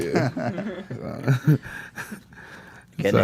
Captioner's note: laughs